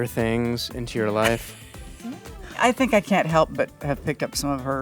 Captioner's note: laughs